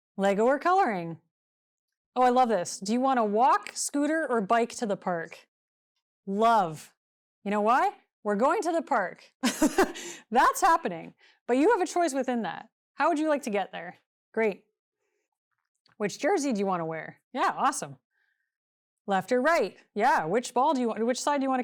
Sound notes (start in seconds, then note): 9.4 chuckles